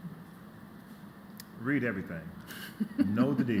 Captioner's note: laughter